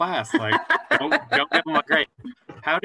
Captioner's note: laughter